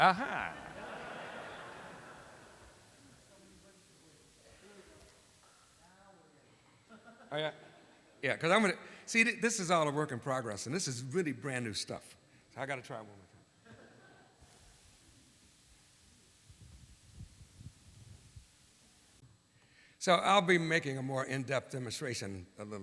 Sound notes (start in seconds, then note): 0.0 laughter